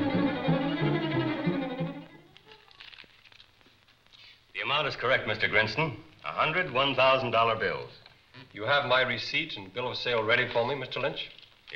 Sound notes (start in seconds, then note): 2.2 paper crinkling